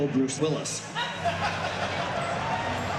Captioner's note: crowd laughing